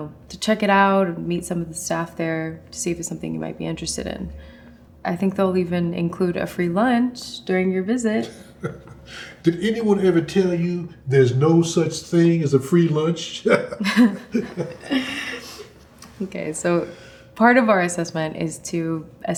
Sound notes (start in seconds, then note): 8.2 laughs; 13.3 both laugh